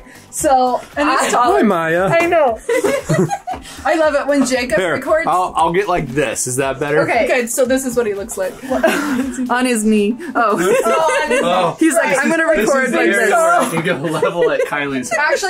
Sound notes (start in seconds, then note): 2.6 laughs